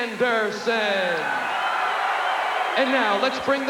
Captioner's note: crowd cheering